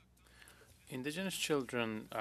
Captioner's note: speaking in French